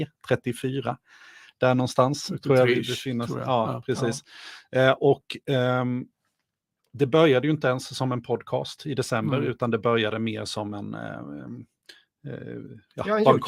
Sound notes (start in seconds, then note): 1.6 speaking in Swedish